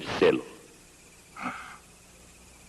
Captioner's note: labored breathing